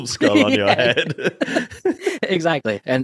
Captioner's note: both laughing